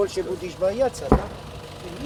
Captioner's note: distant explosion booms